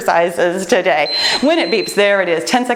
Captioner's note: timer beeps